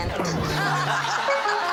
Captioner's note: laughter